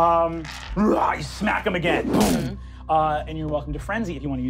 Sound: growls

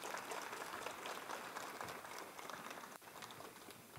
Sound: applause

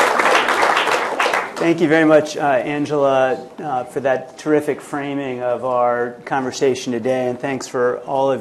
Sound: applause

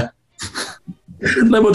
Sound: sniggering

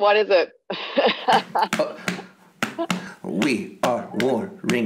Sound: laughs

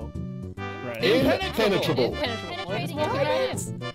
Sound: crowd; crowd

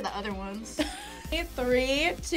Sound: React laughs

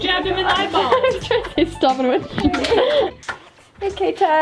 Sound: laughs

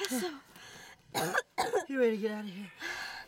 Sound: coughing

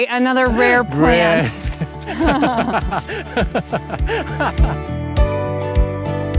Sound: both laughing; upbeat music

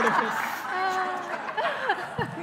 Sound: laughing

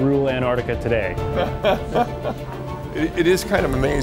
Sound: laughing

